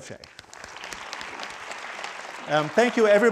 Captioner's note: crowd applauding